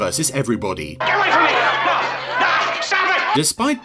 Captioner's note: crowd arguing